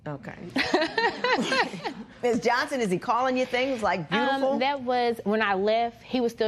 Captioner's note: laughter